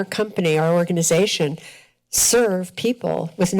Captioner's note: none